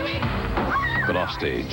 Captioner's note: ominous chord; Dolly screams